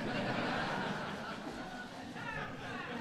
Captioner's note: laughter